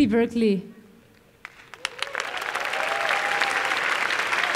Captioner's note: applause